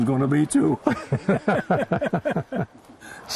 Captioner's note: laughter